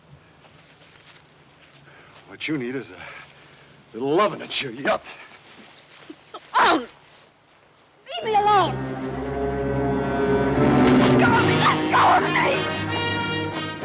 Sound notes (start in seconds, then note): 5.4 yells